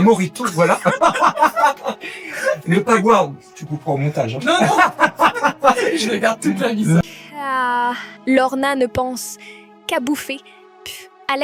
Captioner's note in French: rires